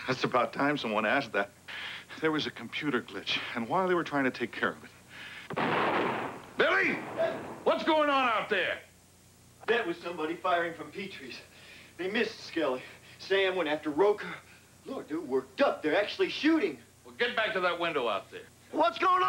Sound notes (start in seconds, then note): 5.5 gunshots